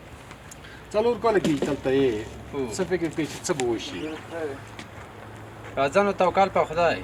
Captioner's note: translator speaking in a foreign language; speaking in a foreign language